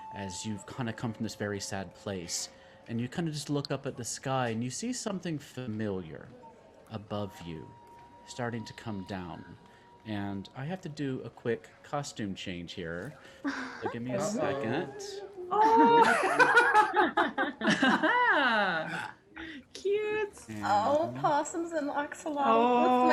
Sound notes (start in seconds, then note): 16.6 laughs